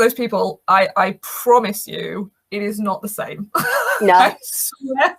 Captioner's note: laughs